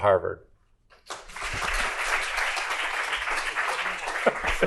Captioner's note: applause